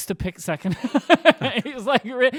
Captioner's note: laughing